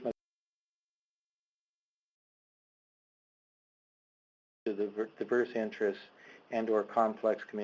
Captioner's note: audio cuts out